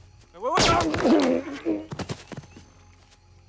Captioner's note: gunshot